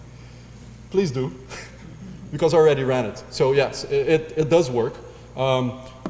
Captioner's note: laugh